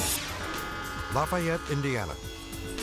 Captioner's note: air whooshes; upbeat music; train horn blaring